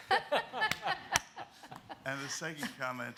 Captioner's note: laughing